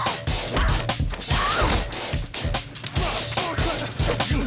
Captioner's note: screams